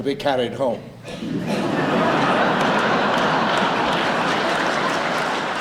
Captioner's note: audience laughs and applauds